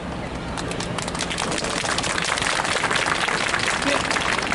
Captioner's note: clapping